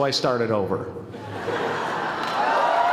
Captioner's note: laughter; applause